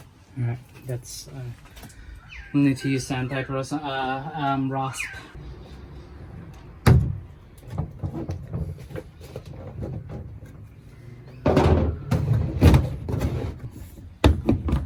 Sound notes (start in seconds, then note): 6.6 loud clipping noise as plastic is cut; 6.6 much rattling and banging as lid shuts